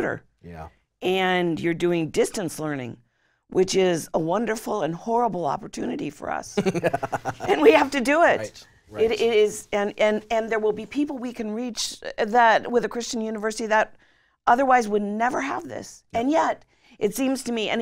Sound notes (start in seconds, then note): 6.5 laughing